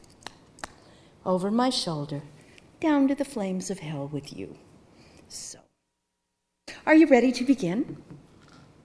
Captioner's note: none